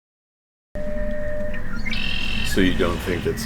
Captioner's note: songbird